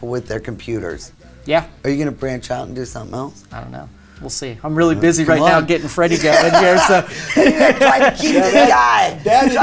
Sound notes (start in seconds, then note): 5.4 laughing